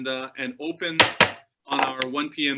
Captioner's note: thudding